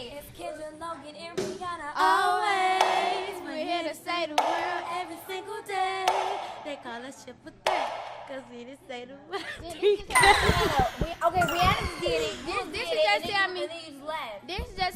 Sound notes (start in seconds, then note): 10.2 record scratch